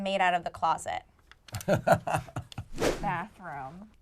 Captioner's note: chuckles